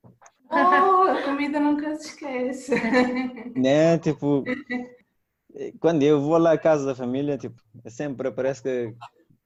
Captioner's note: laughs